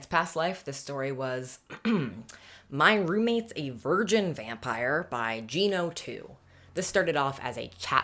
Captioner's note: clears throat